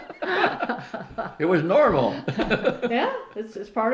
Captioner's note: laughs